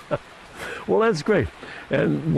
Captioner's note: laughter